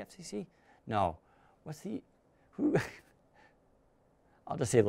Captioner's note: chuckles